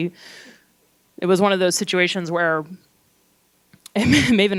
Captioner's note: laughs